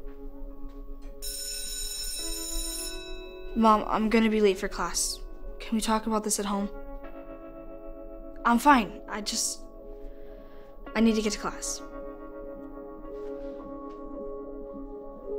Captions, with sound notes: ( school bell rings ) Mom, I'm gonna be late for class. Can we talk about this at home? I'm fine. I just... I need to get to class.